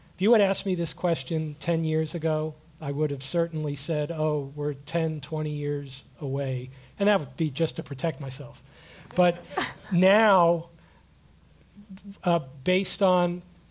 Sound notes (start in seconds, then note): 9.1 laugh